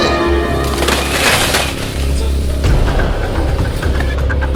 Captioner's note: sound of tree being broken